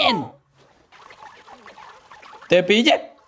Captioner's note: gloinks squeaking, boinking